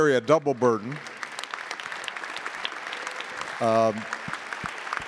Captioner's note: attendees applauding